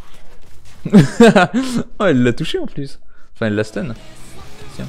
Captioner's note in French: Rire